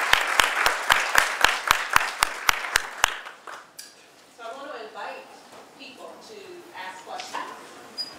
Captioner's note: audience applause